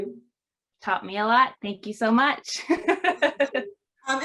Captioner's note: laughs